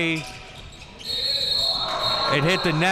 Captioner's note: whistle blows